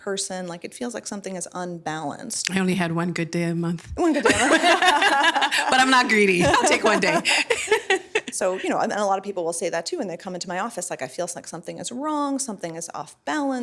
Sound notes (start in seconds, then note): 4.0 laughing